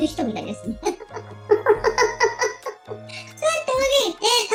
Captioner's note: laughs